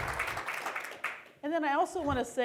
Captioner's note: applause